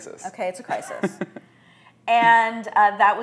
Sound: laughs

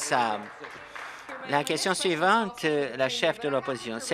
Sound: some Applause

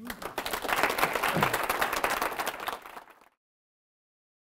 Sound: audience applauding

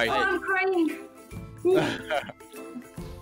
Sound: chuckles

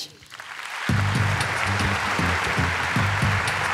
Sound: applause

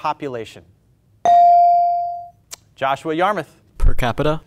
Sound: buzzer pings

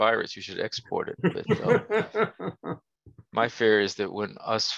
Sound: laughter

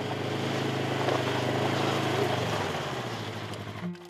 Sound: engine roaring

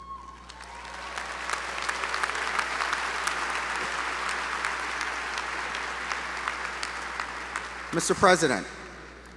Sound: applause

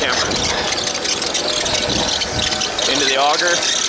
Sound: machine screeching

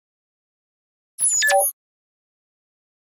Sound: sound of high tech bleep

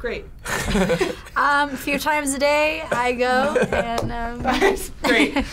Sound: laughs

